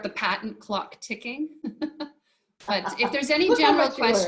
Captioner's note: chuckling